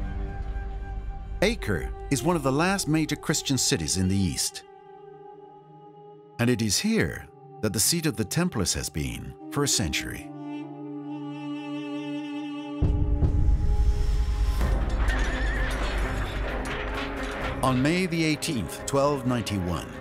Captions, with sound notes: Acre is one of the last major Christian cities in the east. And it is here that the seat of the Templars has been for a century. (horse whinnying) (swords clanging) On May 18th, 1291,